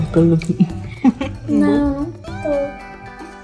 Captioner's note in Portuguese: risos